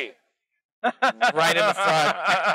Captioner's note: laughs